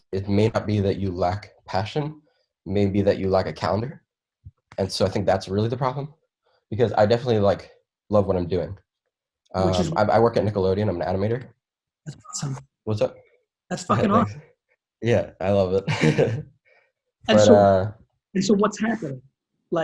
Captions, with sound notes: He said, "It may not be that you lack passion, "it may be that you lack a calendar." And so I think that's really the problem because I definitely love what I'm doing. - Which is what? - I work at Nickelodeon. I'm an animator. - That's awesome. - What's that? - That's fucking awesome. - Yeah, I love it. (chuckles) - And so what's happening?